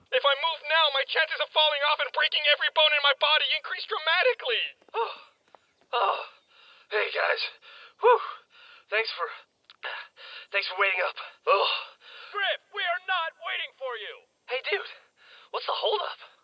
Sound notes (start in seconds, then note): 5.9 exhausted breathing; 9.8 gasp